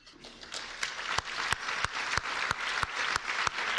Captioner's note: applause